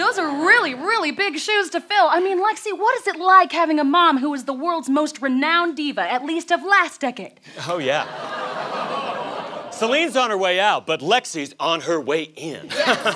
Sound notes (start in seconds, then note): 8.2 audience groans